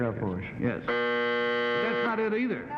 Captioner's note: buzzing